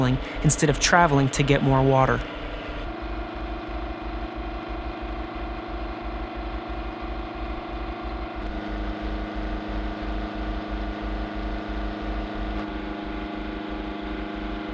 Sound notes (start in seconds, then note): 3.0 machinery sounds